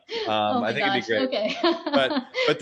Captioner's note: laughs